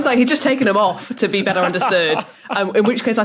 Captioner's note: laughs